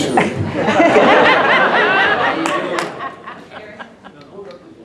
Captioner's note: audience laughs